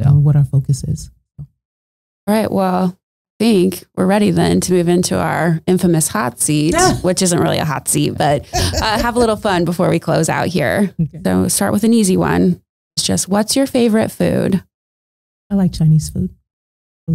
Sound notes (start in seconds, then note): 6.8 laughing